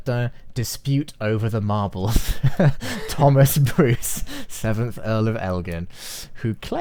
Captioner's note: both chuckle